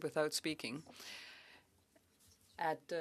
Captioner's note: speaking French